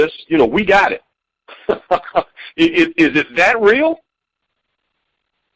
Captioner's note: chuckling